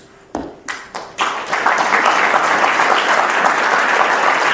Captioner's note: audience applauds